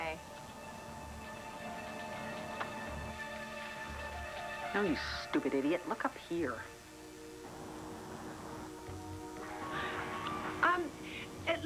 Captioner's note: normal voice